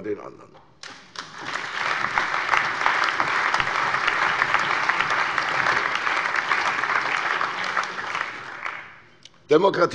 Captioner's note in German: Allgemeiner Beifall